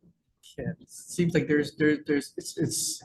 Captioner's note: stammering